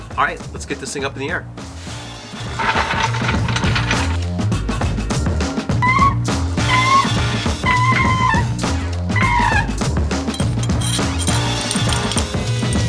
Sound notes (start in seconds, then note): 5.9 squeaking; 10.2 clanking